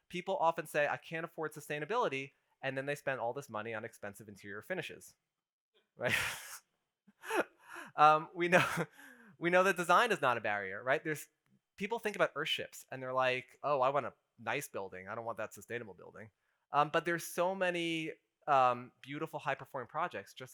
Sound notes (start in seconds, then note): 6.0 laughs